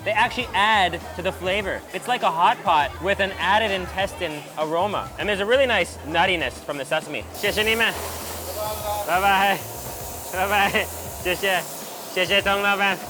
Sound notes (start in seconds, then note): 7.3 speaks in a foreign language; 8.1 man speaks in a foreign language; 9.1 speaks in a foreign language